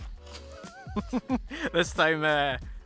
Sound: group laughing

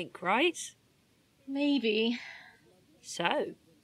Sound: sighing

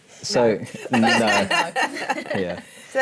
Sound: laughter

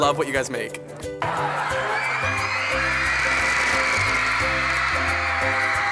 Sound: crowd cheers

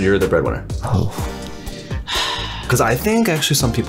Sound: sigh

